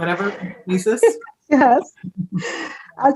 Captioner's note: laughs